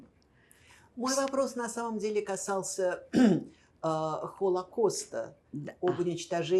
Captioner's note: clears throat